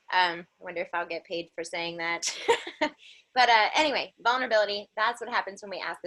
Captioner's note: laughter